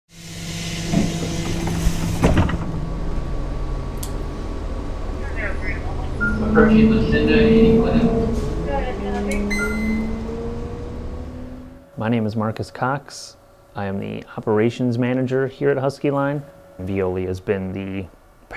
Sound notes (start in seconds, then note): 0.0 bus drone. Talk on the radio. A driver announcing the next stop. Pull cord dings